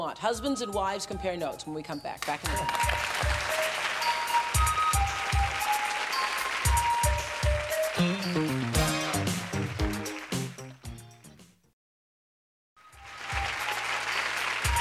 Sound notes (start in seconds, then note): 2.2 applause